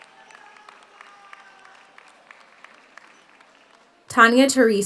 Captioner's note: audience cheers; audience applauds